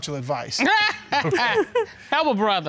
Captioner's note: laughs